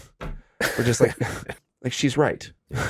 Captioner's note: chuckles